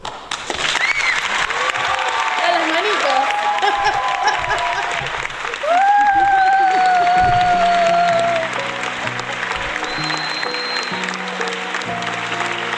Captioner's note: applause